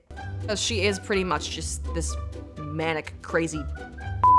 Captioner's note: beep